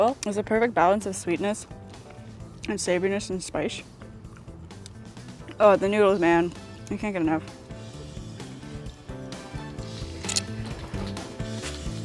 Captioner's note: slurp